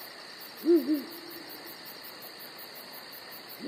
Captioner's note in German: Eulen-Rufe